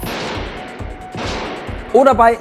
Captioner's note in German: Schüsse